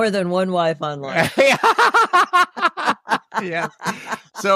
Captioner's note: laughter